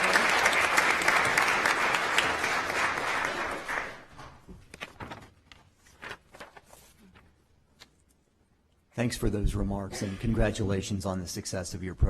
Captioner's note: applause